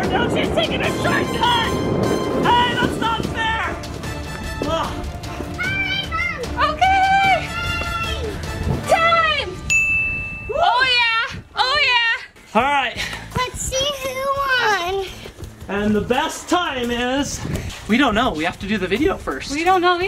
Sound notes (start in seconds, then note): 9.7 dings